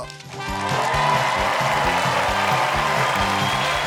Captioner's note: cheers and applause